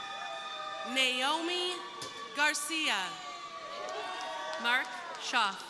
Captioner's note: crowd cheering